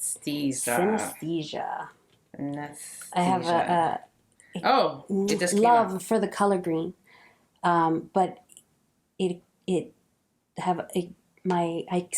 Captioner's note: kiss sound